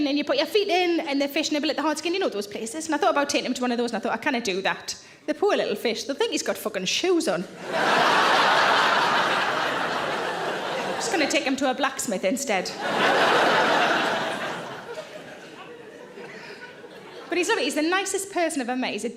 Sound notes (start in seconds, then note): 7.5 audience laughing; 12.7 audience laughing loudly